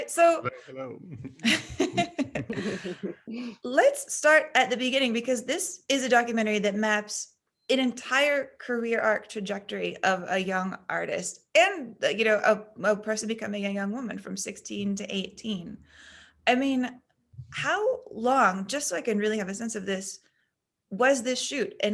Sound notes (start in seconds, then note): 0.9 all laughing